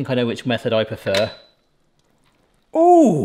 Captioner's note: lid clunks